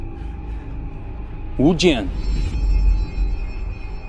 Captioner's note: Mandarin